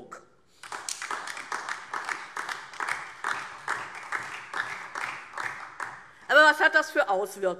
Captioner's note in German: Beifall DIE LINKE und vereinzelt SPD